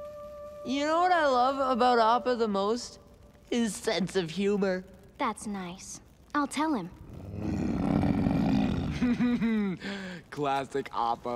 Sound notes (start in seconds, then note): 7.1 grunting; 7.5 laughing